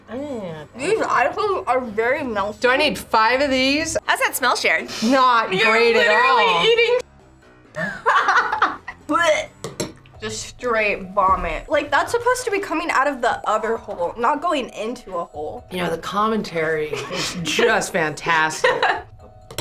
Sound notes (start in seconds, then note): 8.9 wretches